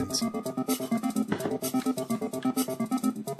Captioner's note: mug placing on table